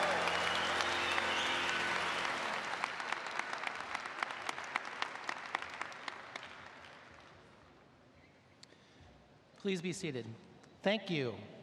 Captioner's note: applause